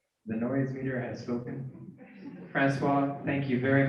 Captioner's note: cheering and Applause